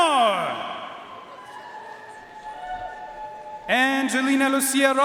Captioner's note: audience cheering and applauding